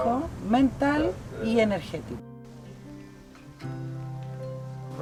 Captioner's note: speaking Spanish